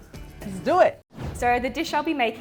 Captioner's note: whooshing